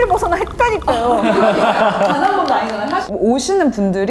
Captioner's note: clapping